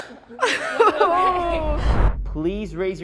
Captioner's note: students laughing and groaning